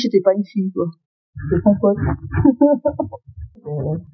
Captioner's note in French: Rires